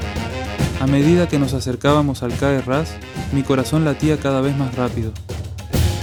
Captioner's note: in Spanish